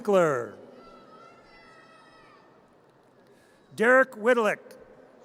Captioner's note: audience cheers